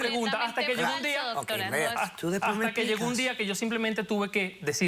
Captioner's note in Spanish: Hablan al unísono